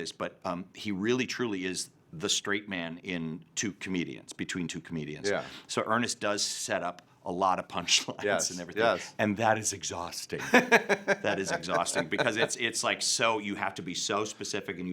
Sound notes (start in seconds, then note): 10.4 laughing